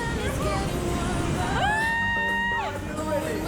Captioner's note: screeming